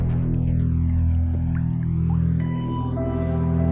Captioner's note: somber synthesizer music; dripping